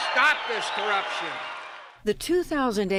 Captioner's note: cheering and applause